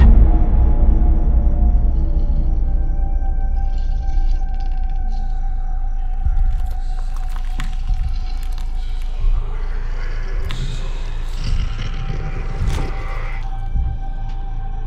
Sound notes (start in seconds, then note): 2.1 Andrew snoring; 11.2 monster growling